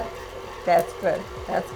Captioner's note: machine whirs